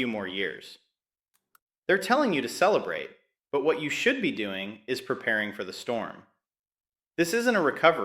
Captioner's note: sarcastic